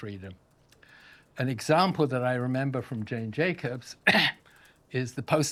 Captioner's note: coughs